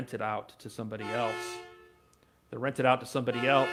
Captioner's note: vehicle honking